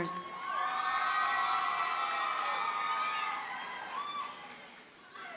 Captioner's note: audience cheers and applauds